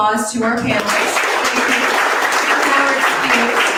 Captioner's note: audience applause